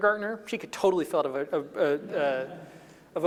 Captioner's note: laughing